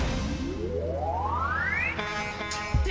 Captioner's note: horn honking